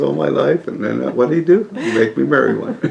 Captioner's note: laughter